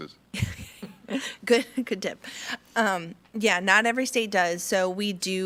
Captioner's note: laughs